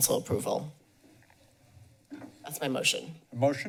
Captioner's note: pause